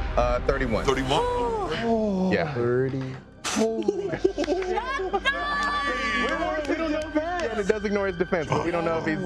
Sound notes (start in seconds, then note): 1.2 sighing; 4.8 cheering